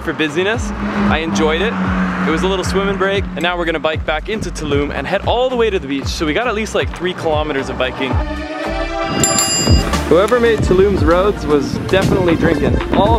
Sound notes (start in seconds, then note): 8.5 upbeat music; 9.0 bell ringing